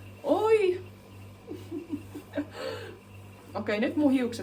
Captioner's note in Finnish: naurua